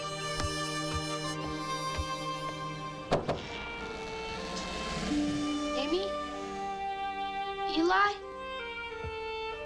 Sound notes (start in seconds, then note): 3.1 door knocks